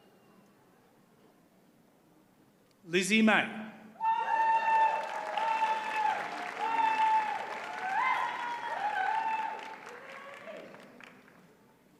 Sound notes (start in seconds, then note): 4.0 audience cheers and applauds